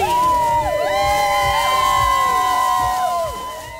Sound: cheering

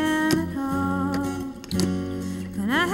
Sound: guitar case latches spring open

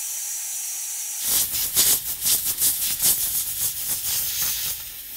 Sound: air gun whooshing

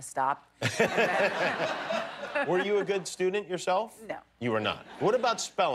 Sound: laughter

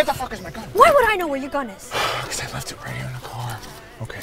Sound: exhales

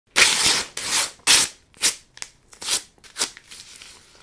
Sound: paper ripping sound

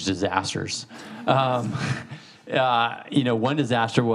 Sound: all laughing

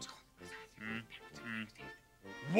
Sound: Gonzo whispering

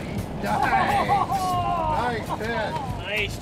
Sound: laughter

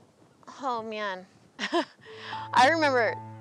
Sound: laughter

